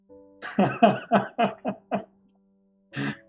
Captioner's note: laughs